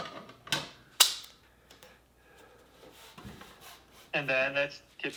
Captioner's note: tape snaps